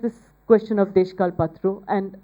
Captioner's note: speaking bengali